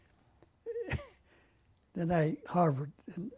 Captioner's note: laughs